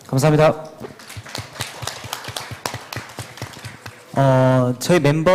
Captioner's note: claps